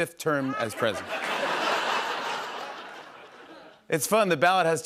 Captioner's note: laughter